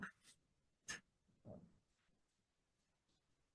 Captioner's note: none